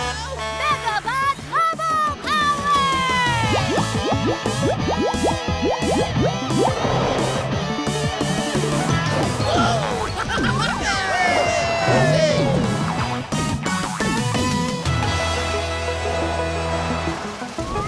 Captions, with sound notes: Megabot bubble power! [cheering, laughing]